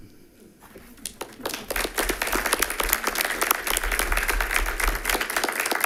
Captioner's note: attendants applauding